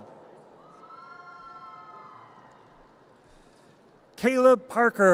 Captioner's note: audience cheers